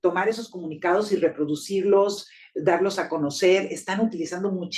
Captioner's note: speaking Spanish